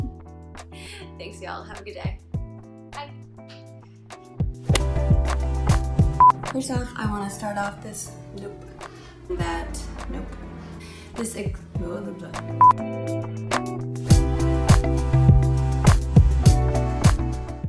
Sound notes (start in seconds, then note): 6.2 beep; 8.9 rolls tongue; 12.6 beep